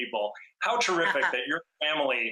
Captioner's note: laughing